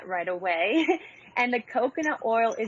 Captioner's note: chuckles